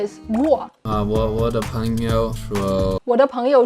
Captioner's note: speaking in Mandarin